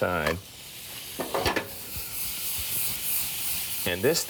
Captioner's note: pan clanks